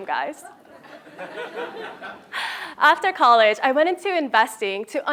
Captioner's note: laugh